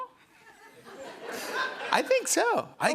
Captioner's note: laughter